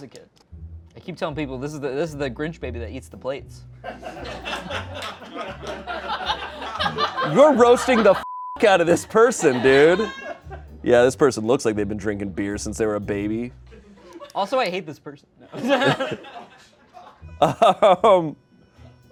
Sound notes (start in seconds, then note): 3.8 laughter; 8.2 beep; 17.4 chuckles